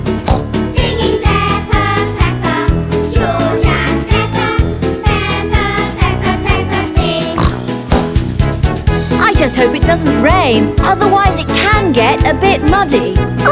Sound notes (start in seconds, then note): 0.1 singing; 7.3 oink